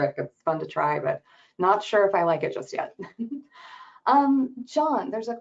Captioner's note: laughs